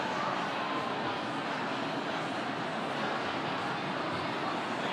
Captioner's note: people chattering